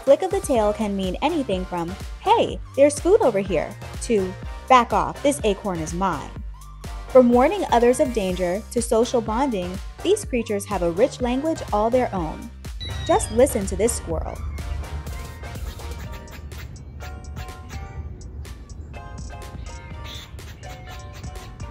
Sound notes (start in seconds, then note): 19.6 squirrel sounds